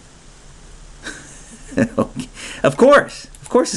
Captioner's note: chuckles